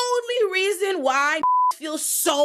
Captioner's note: beep